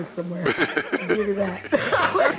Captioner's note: laughter